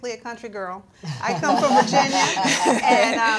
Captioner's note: all laughing